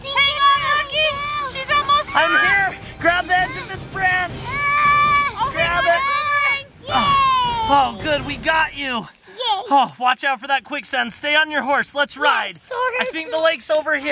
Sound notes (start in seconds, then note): 4.6 shouting